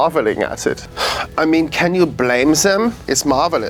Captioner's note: sighs